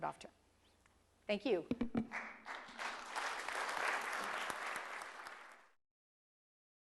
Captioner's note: applause